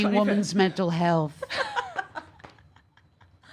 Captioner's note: laughs